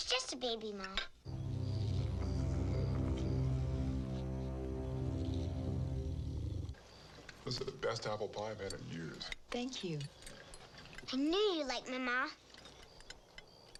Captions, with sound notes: - It's just a baby, Ma. (deep ominous music) (creature growling lowly) - This the best apple pie I've had in years. - Thank you. - I knew you'd like my Ma.